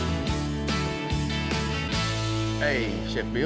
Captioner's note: door opens